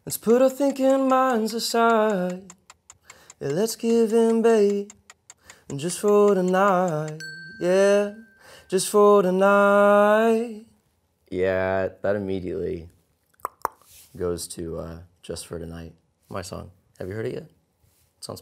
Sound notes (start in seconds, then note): 8.0 dinging; 13.4 popping